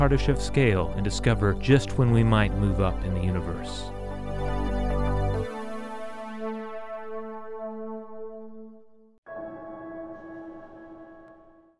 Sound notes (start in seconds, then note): 4.0 electronic tone; 9.2 resonating tone